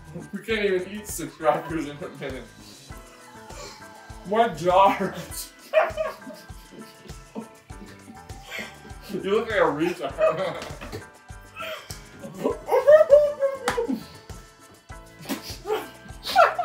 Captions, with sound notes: we can't even eat six crackers in a minute my jaw hurts you look like a retard (laughing)